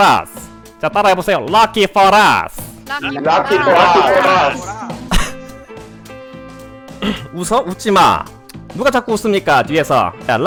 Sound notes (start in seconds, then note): 5.6 holding back laughter 4